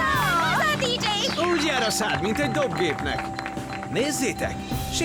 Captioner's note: dinging